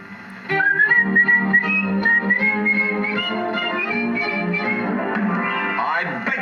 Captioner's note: whistling